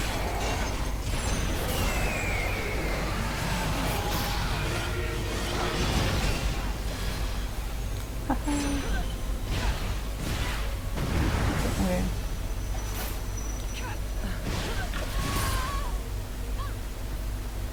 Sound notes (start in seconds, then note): 9.1 fighting noises continue